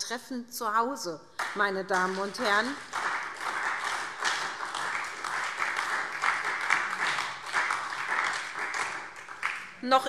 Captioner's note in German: Beifall SPD und vereinzelt DIE LINKE